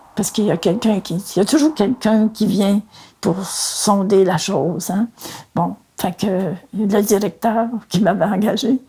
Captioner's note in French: none